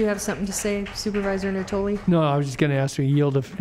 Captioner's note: applause